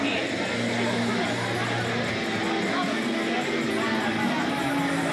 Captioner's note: chatter